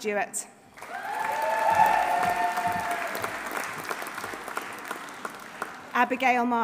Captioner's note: audience applauding; audience cheering